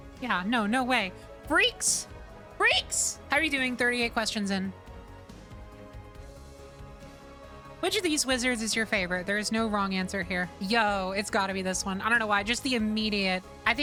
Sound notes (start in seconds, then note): none